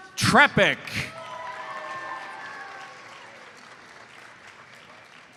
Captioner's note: audience cheers and applauds